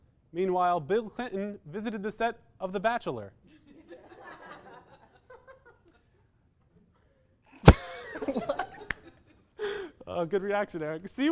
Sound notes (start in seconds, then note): 3.7 audience laughter; 5.4 disapproving silence; 7.5 wheezes then laughs